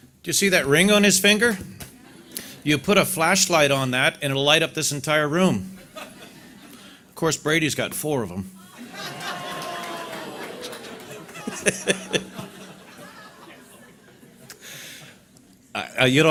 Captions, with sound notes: - Did you see that ring on his finger? You put a flashlight on that and it'll light up this entire room. Of course Brady's got four of them. (audience laughter)